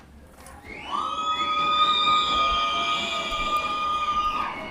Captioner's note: loud cheering